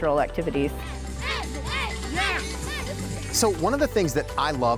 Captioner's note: performers chanting